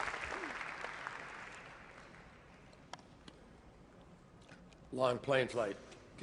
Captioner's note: applause